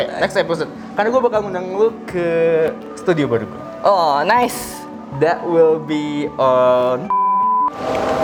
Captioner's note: beep